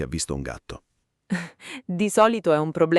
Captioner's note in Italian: Haha